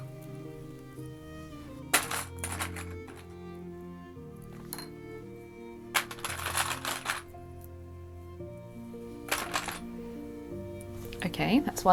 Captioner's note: clips rattling